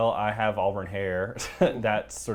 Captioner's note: laugh